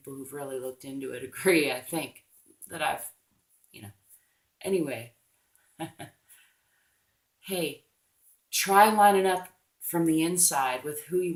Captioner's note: laughs